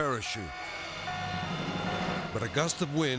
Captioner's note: object beeping